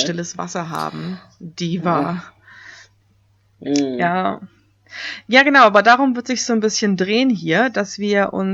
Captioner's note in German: ironie